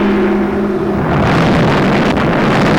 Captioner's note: roaring Fire